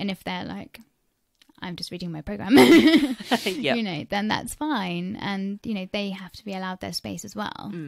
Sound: laughs

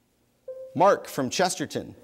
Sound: bell dings

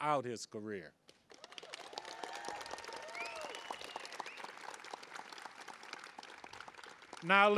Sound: applause

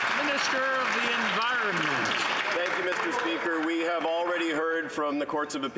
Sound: some Applause

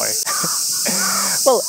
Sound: chuckles

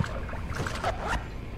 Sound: zipping sound

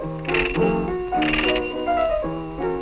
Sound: doorbell ringing

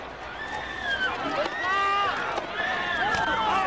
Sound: screaming and shouting

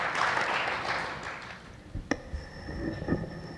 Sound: applause

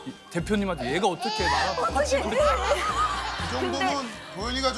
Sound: tears

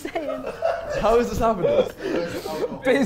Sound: Sidemen laughing

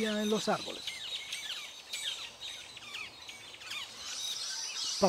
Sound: birds chirps and calls

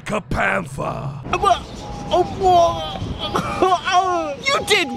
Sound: weird excited noises

